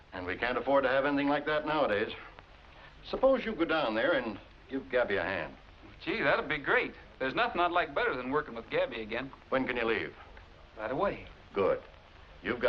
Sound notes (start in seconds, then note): none